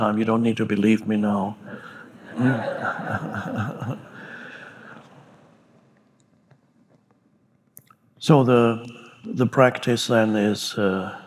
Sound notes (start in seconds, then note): 2.0 audience chuckling